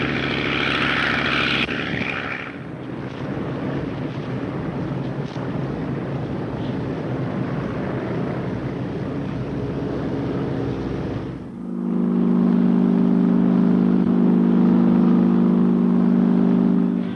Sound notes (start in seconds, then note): 3.4 airplanes buzzing; 11.9 airplane motor whirring